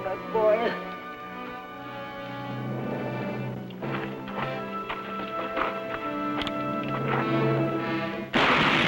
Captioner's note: gunshot